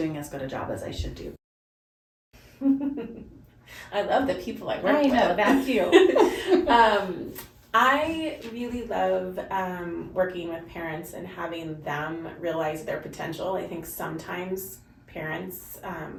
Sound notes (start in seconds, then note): 2.3 laughs; 5.8 both laugh